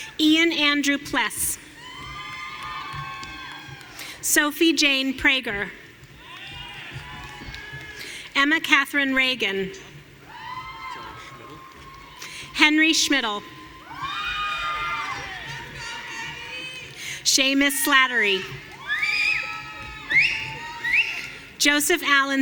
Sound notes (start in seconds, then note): 1.7 audience cheering; 6.1 audience cheering; 10.3 audience cheering; 14.4 audience cheering; 19.0 audience cheering